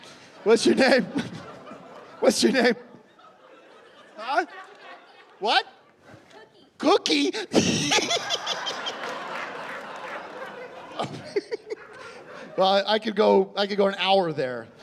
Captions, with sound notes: What's your name? What's your name? - Huh? What? - Cookie. Cookie? [giggling] Well, I could go... I could go an hour there.